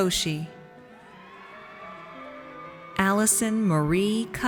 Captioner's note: audience cheers